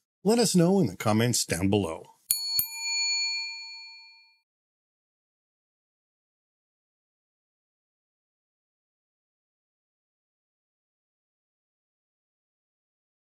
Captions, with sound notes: Let us know in the comments down below. (bell dings)